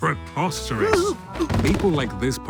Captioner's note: Blockson exclaims